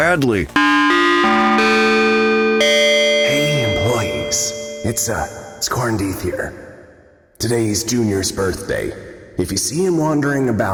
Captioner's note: whispering, loudly